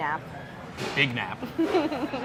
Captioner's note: laughing